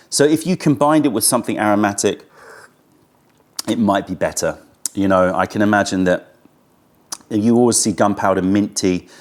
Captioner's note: sips tea